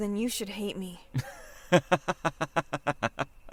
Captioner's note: laughs